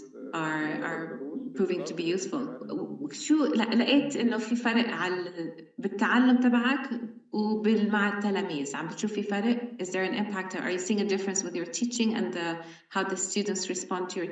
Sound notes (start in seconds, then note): 3.2 speaking arabic